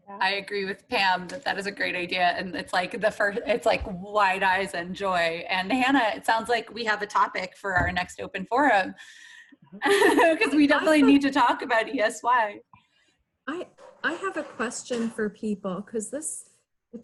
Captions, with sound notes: - I agree with Pam, that that is a great idea. And it's like, wide eyes and joy. And Hannah, it sounds like we have a topic for our next open forum. (laughs) 'Cause we definitely need to talk about ESY. - I have a question for people 'cause this,